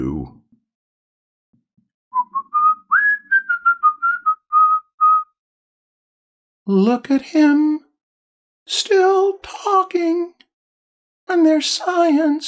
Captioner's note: whistling